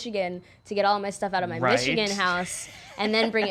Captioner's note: chuckles